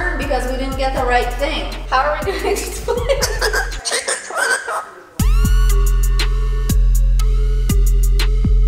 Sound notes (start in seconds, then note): 2.0 laughing; 3.2 bird squawking; 5.3 techno music